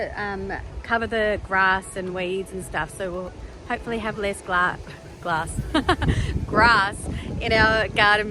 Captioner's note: haha